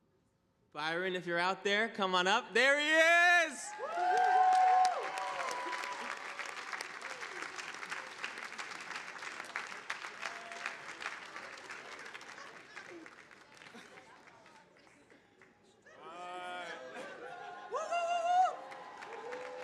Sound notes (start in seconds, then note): 4.3 audience applauding